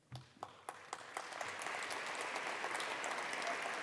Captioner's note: applause